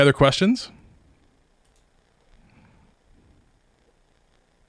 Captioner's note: mouse clicking